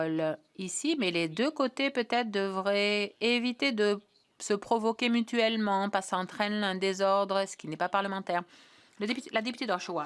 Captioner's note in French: voix de l'interprète